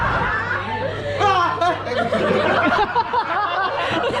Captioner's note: delayed scream